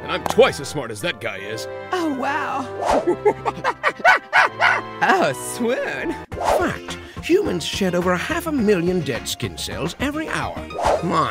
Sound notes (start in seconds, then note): 4.2 chimp screeches; 6.7 voiceover